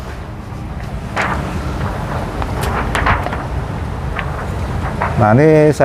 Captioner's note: PET film noise